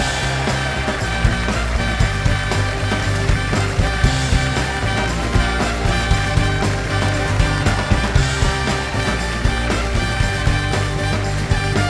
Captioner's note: cheers and applause